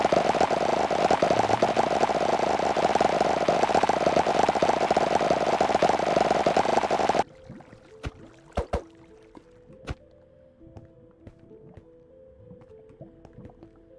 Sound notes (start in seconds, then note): 0.0 very loud cacophony of popping noises; 7.2 ambient tense music; 7.2 punching; 10.5 ambient tense music